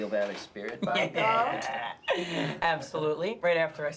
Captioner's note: Bobby laughs